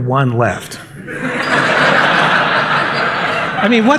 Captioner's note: laughter